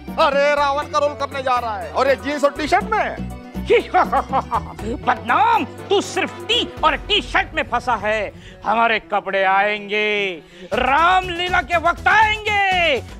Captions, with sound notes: You're going to play the demon king Ravan's role? In jeans and a t-shirt? [laughter] Badnaam, you're caught up in tea and t-shirts. I will get my costume. I will get it in due time before Ramleela.